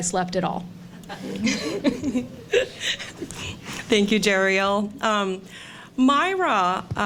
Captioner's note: laughter